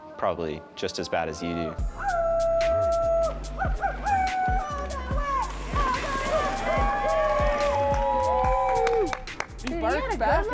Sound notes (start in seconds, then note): 3.6 cheering